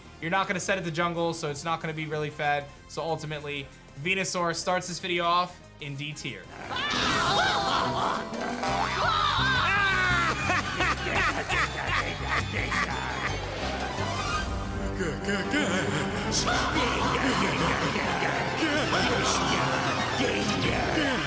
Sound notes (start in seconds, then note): 9.3 Haunter and Gengar laughing; 15.2 everyone laughing